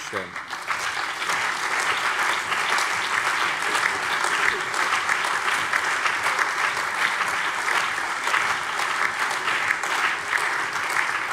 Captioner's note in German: Allgemeiner Beifall